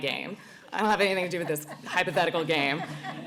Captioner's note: laughter